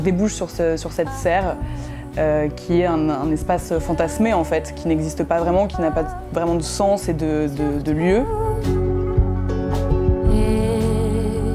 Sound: speaking in french

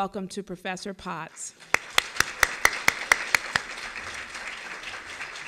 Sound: applause

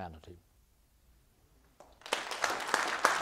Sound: applause

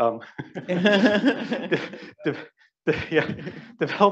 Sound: all laughing

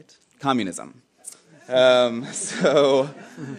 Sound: laughing

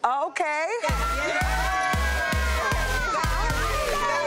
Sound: group cheering

